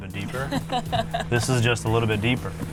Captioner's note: chuckling